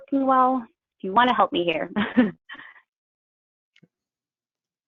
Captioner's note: chuckles